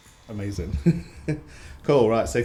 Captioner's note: giggles